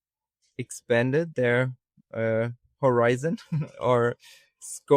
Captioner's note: chuckles